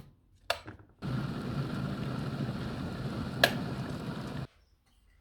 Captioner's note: tea making noises